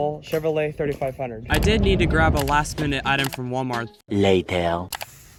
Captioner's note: voiceover